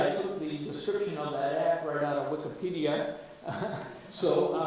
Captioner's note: chuckles